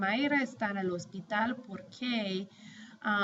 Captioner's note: speaking spanish